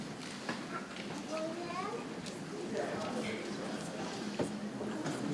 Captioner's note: people chattering softly